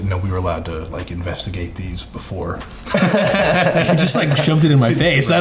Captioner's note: all laughing